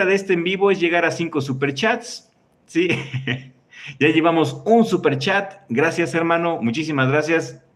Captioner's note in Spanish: risas